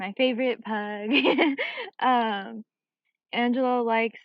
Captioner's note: chuckles